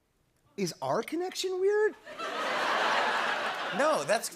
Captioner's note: laughter